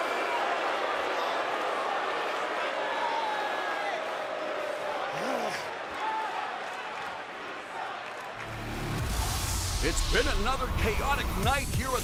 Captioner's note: crowd cheering